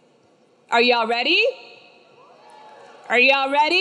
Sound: students cheering

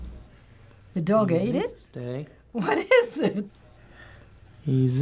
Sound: laughs

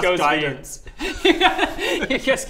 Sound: laughs

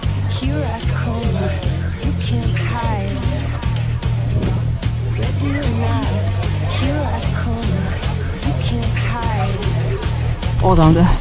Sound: instinctively chatter

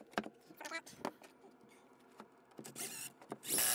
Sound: wood clunking; tape fast-forwarding; drill whirring

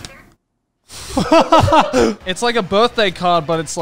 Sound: everyone laughs

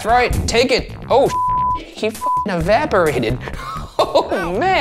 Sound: laughs

